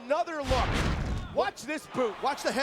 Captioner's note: graphics whooshing